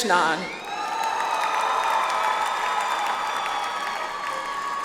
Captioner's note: audience applauds